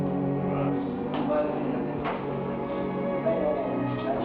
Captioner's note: people chatter